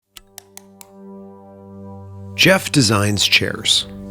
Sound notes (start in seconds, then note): 0.0 soft music; 0.1 keyboard typing